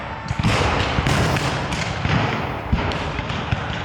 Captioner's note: guns fire